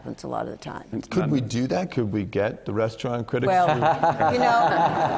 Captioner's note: laughter